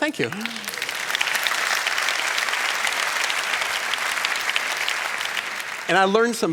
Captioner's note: applause